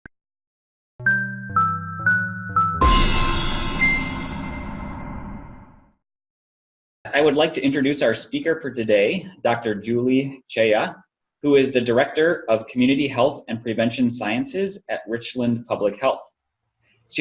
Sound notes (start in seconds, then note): 1.2 pinging; 2.8 boom